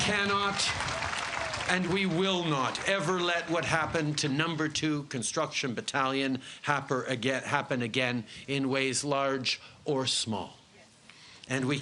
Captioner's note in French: Voix en Anglais